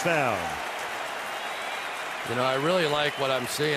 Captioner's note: cheering